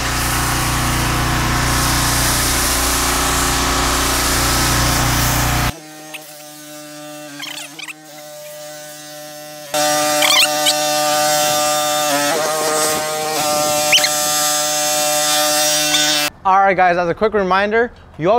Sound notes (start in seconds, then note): 0.0 pressure washer engine whirring; 5.7 sped up pressure washer engine whirring